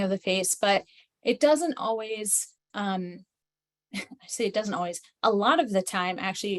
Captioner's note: chuckles